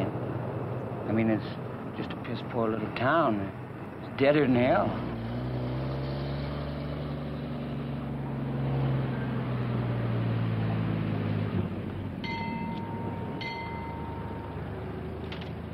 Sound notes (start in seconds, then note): 6.0 engine; 12.2 bell dings